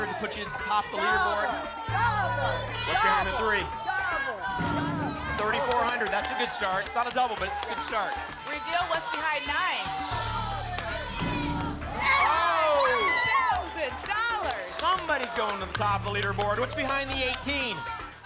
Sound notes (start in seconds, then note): 10.4 cheering; 12.0 screams